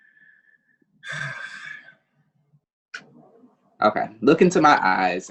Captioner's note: sighs